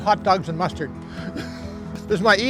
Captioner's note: chuckles